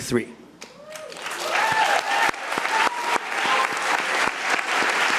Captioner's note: audience applauding